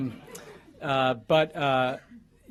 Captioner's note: laughter